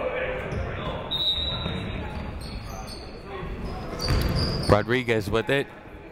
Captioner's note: whistle shrills